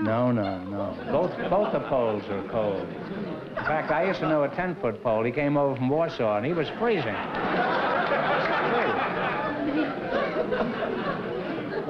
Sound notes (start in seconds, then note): 7.0 laughter